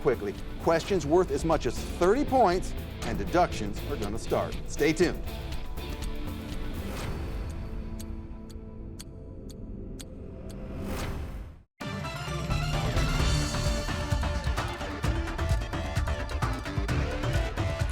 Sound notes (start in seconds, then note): 5.0 energetic music; 7.2 clock ticking; 11.8 lively music